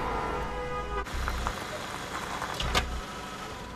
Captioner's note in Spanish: Cláxones